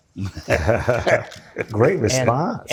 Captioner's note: laughing